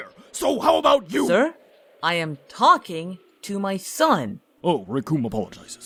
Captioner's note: talking